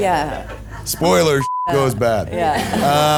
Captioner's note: beep